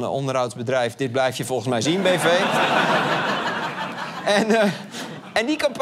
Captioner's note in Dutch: gelach